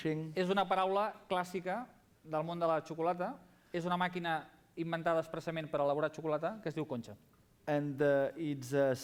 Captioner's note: non-english speech